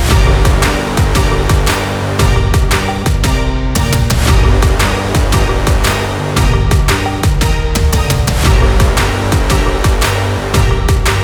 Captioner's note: punch